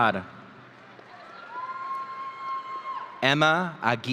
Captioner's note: audience cheering